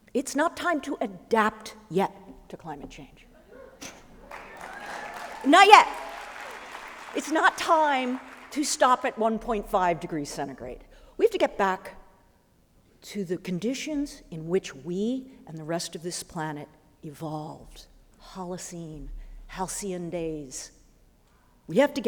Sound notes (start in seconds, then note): 4.1 applause